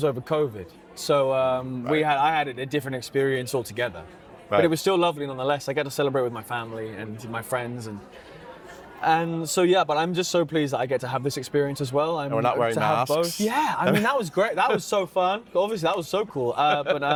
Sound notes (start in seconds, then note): 13.1 laughs